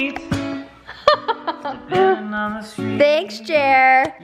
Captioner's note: laughs